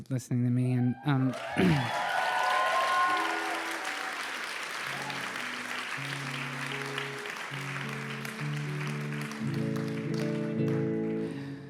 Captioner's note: applause